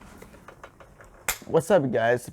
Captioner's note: single clap